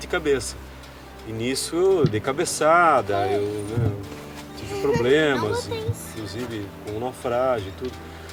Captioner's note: laughs